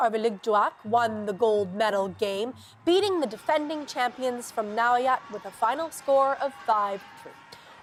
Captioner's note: cheers and Applause